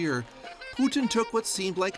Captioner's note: applause